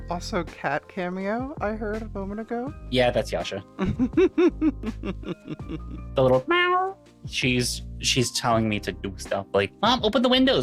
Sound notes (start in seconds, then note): 3.8 laughing